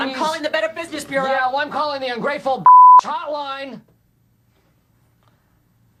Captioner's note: beep